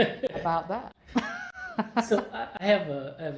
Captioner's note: laughter